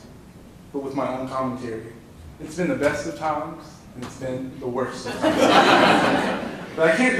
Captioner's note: laughing